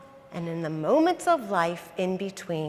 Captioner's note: none